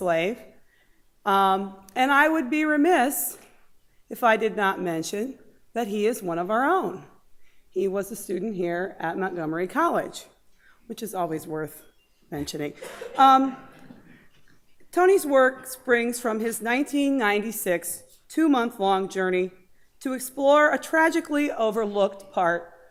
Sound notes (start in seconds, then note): 12.2 laughter